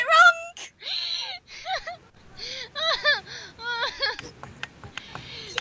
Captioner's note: laughs